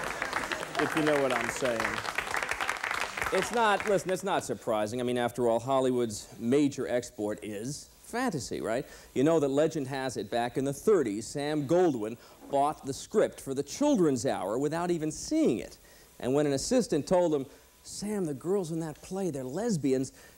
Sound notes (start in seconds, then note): 0.0 laughter; 2.7 applause